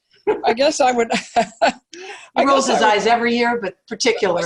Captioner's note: laugh